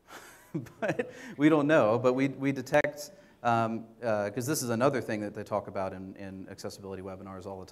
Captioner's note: laughs